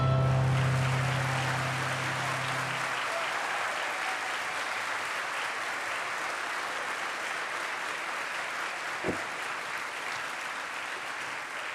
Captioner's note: applause